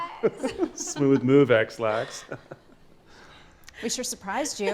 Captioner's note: laughs